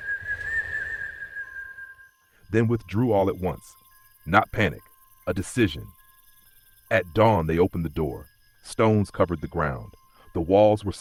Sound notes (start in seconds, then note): 6.2 pause